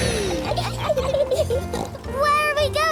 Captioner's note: laughs and snorts